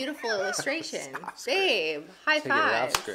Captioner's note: chuckles